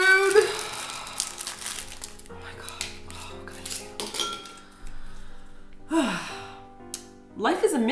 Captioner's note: sighs of exasperation